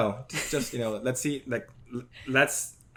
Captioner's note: laughs